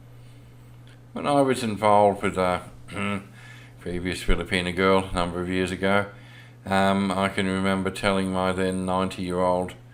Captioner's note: cough